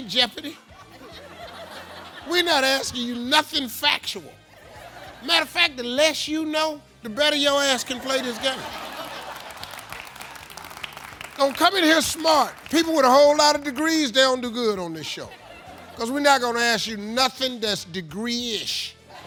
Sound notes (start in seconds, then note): 0.8 audience laughs; 7.8 audience laughs; 8.9 audience claps; 15.0 audience laughs